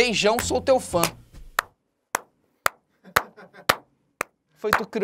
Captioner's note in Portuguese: risadas